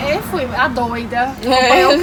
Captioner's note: laugh